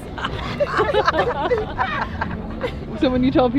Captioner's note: group laughing